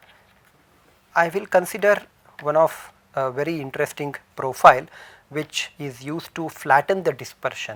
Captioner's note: chirping